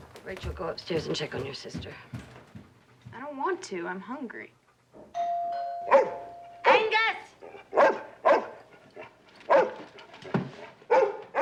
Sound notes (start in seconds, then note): 5.1 doorbell rings; 5.8 angus barks; 9.1 barking continues